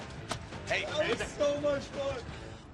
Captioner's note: chatter